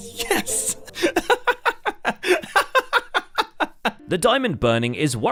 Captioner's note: victorious laughter